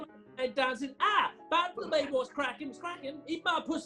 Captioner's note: raps